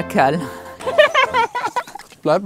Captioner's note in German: Lachen